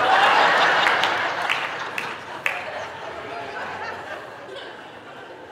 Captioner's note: audience laughing